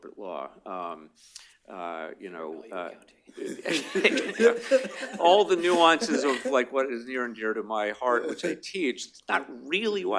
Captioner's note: laughter